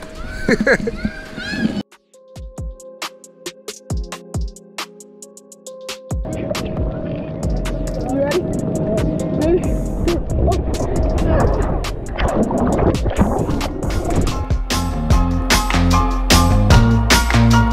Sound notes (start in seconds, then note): 0.1 kid screaming; 0.2 laughs; 2.3 upbeat music; 12.3 water burbling; 14.9 upbeat music